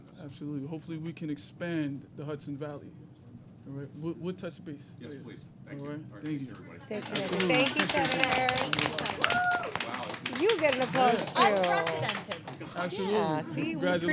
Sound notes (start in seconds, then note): 11.6 applause